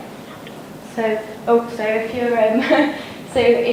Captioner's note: chuckles